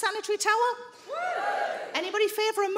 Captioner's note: some women whoop